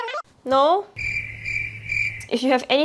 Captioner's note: crickets